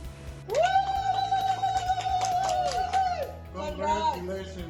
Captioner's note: clapping